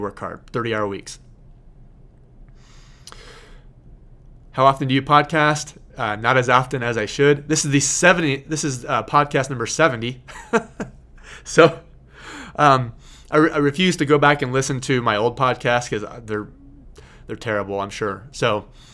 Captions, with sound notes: work hard, thirty hour weeks. "How often do you podcast?" Not as often as I should, this is podcast number 70. (laughing) I refuse to go back and listen to my old podcasts 'cause they're terrible, I'm sure.